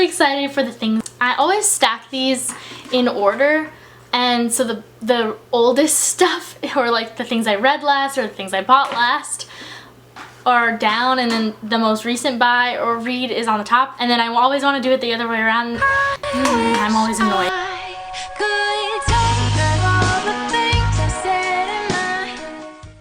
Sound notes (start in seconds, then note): 15.8 ugh